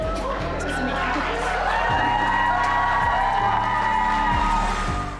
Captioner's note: audience cheering